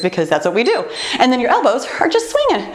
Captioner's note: timer beeps